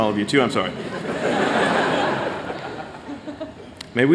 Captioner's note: laughter